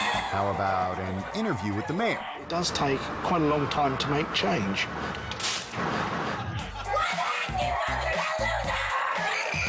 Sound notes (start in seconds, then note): 5.5 bag smacking; 5.7 audience laughing